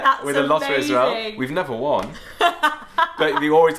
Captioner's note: laughs